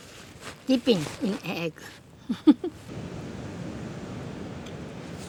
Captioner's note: chuckles